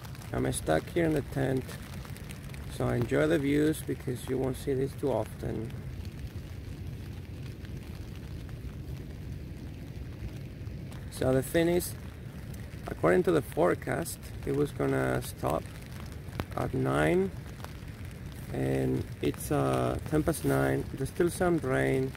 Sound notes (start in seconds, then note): 16.5 the rain